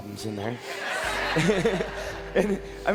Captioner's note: crowd laughing